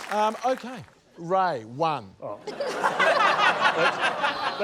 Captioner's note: laughter